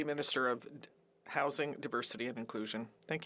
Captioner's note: speaking French